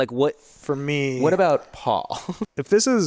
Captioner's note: chuckles